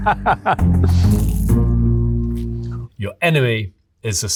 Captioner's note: Bear laughing; food crunching